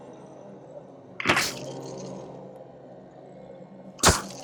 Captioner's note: hits